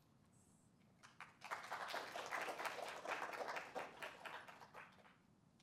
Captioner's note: applause